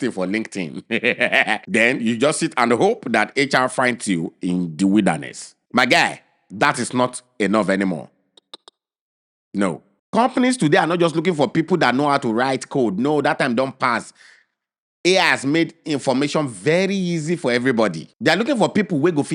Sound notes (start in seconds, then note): 0.8 chuckles; 8.4 clicks tongue